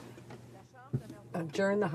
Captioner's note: speaking french